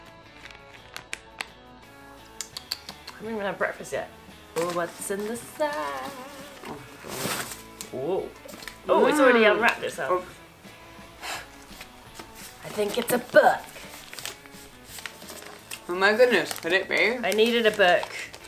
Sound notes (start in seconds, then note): 2.4 tutting